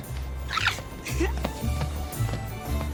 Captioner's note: peyton giggling